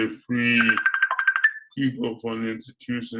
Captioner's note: phone rings